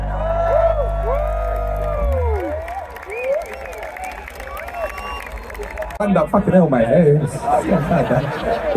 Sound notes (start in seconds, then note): 7.4 laughing